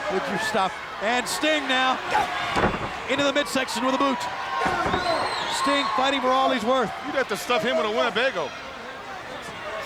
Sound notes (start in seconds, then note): 2.0 wrestler grunts; 2.5 floor slamming; 4.6 wrestlers grunt; 4.7 crowd cheering continues